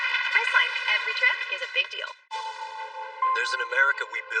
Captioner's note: alause